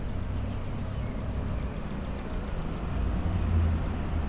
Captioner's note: birds chirping